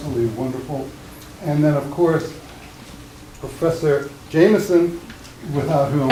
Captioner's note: laughing